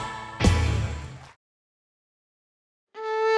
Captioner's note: applause